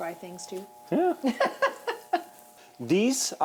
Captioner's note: laughs